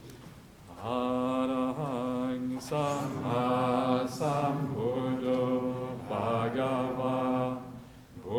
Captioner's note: chanting